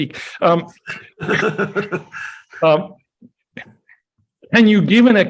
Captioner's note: laughs